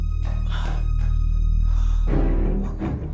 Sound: sighs

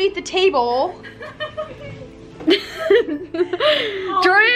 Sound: laughs

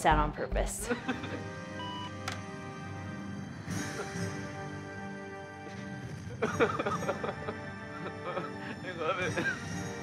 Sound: sobbing

